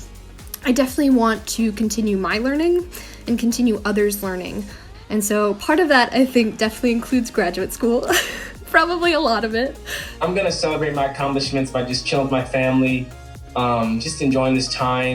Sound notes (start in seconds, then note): 8.0 laughing